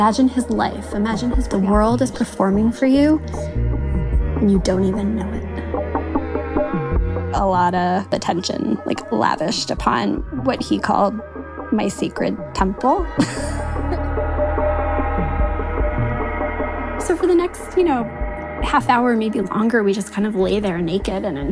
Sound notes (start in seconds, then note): 13.1 laughs